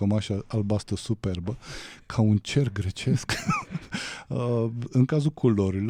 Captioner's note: laughter